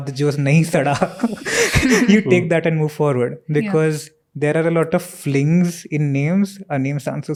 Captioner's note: speaks in Hindi